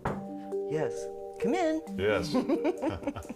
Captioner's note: soft knocking